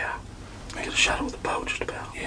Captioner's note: whispering